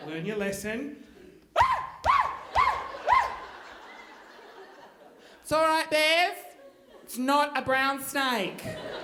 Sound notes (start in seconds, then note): 1.5 screaming; 8.5 audience laughing